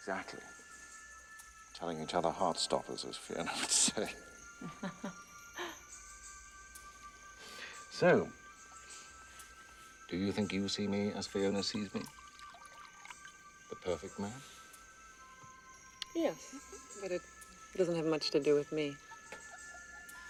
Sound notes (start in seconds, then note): 4.6 laughs